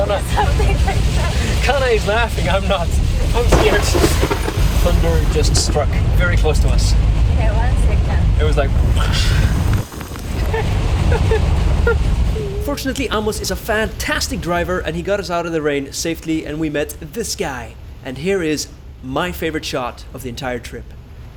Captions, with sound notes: something like that! Kana is laughing, I'm not! :O I'm scared! Thunder just struck very close to us Yeah one second it was like, plASH! *Nervous noises* Fortunately Amos is a fantastic driver and got us out of the rain safely and we met this guy! and here is my favorite shot of the entire trip